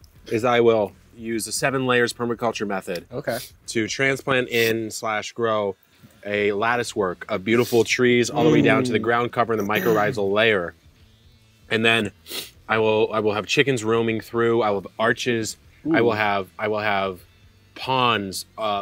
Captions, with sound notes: is I will use the seven layers permaculture method. - Okay. - To transplant in slash, grow a lattice work of beautiful trees all the way down to the ground, cover and the mycorrhizal layer. And then, (sniffs) I will have chickens roaming through. I will have arches, I will have ponds,